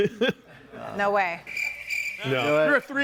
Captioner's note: laughing; crickets chirping